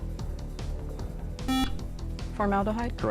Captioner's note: buzzer